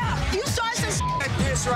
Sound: beep

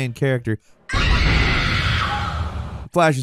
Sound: screaming

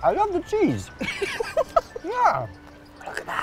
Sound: laughs

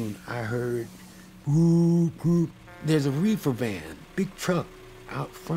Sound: murmuring

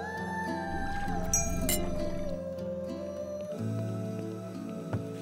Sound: glass clinking

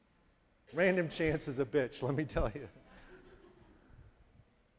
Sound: chuckling

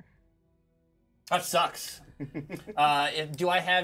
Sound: speaker laughs

